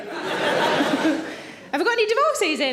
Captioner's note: audience laughs; laughs